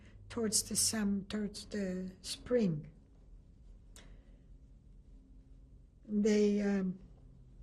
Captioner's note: pauses for 3 seconds